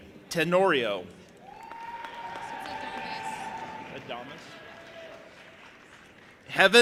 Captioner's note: audience applauding and cheering